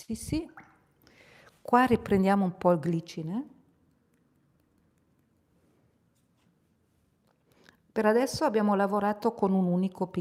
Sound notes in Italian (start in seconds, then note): none